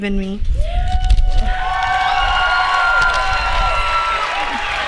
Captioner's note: applause